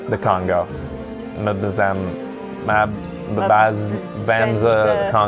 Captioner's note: babbling